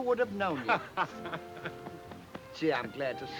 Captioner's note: Ollie laughs